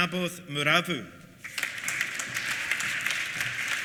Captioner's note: applause